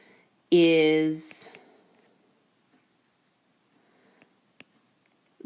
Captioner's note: keyboard Tapping